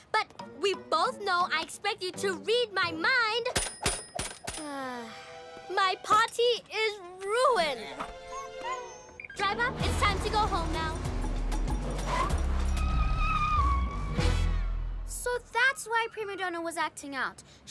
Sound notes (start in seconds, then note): 4.6 sighs; 7.8 whimpers